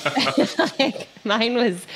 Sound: laughing

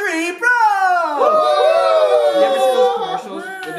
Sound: cheering

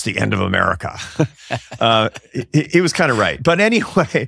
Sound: laughing

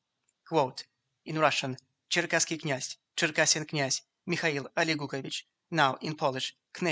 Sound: in Russian

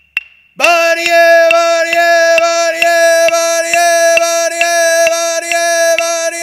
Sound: chanting in foreign language

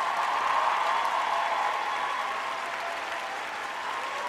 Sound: applause

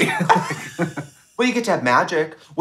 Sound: both laughing

